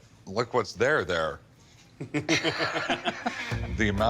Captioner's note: laughter